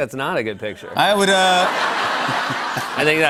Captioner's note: laughter